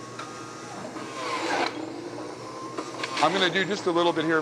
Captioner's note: grinding